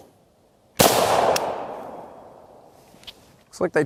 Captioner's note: gunshot